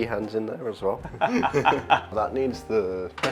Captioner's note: laughter